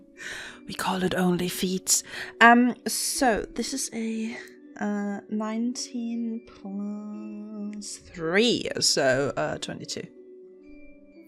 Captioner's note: whispering